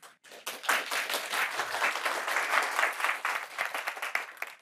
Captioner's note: audience applauds